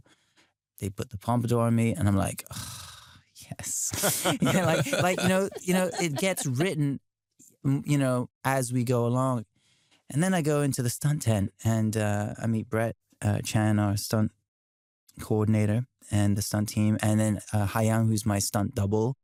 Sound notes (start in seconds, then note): 3.9 laughter